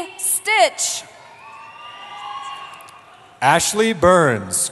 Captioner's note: cheering